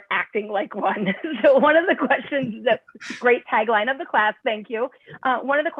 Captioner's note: laughter